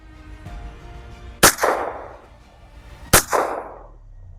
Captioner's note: gunshot